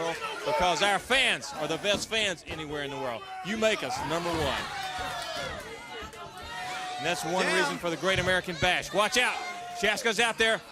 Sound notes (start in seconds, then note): 6.0 crowd chatter